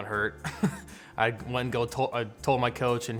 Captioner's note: chuckles